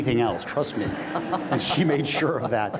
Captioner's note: audience laughs